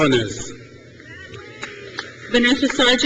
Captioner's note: crowd cheers